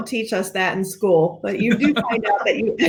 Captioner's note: laughing